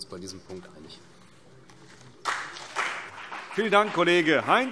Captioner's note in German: Beifall CDU und BÜNDNIS 90/DIE GRÜNEN